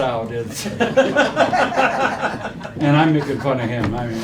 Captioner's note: laughing